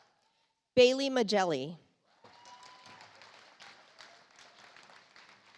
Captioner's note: audience applauds